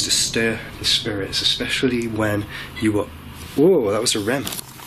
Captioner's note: beeping